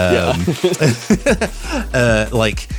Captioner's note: laughs